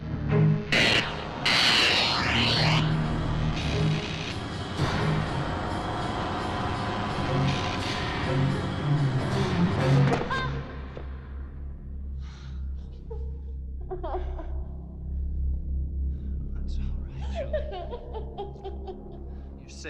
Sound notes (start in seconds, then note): 10.3 Julie gasping; 13.8 Julie crying